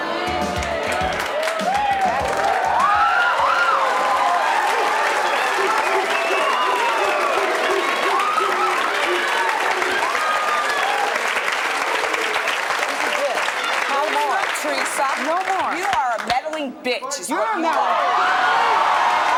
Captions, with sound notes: (audience cheering) - This is it, no more. - Tell the truth, Theresa. - No more. - You are a meddling bitch is what you are.